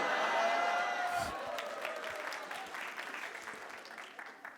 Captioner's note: audience cheers and claps